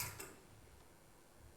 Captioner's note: door opens